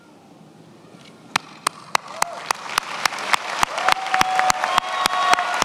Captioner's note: attendees applauding